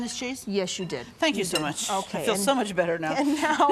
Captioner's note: laughing